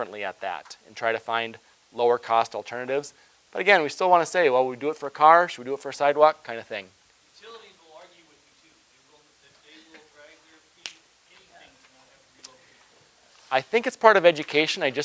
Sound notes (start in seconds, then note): 11.5 person speaking quietly